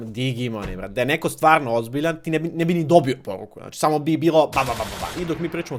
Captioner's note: gunfire imitation